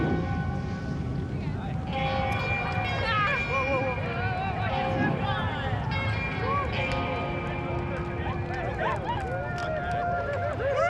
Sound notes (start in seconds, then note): 3.2 people exclaiming